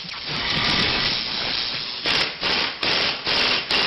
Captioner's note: drilling sounds